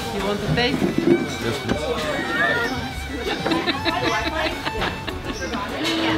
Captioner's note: laughs lightly